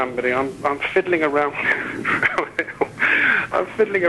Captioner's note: laughing